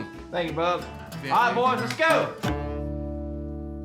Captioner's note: claps